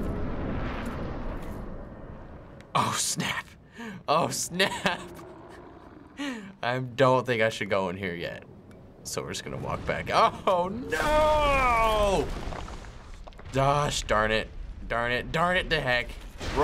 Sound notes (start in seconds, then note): 4.4 chuckling